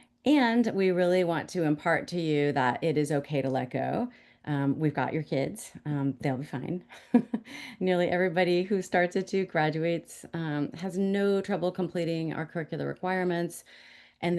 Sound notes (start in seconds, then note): 6.9 chuckles